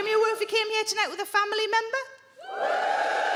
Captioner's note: crowd members cheer